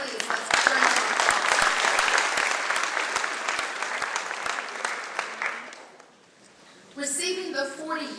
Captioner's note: clapping